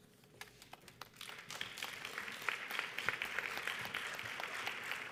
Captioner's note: audience applauds